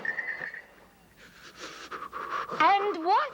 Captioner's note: shivering